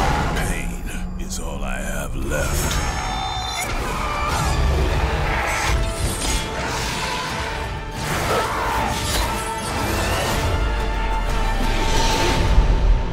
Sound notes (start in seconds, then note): 2.9 shouting